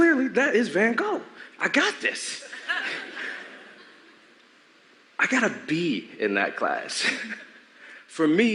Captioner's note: laughter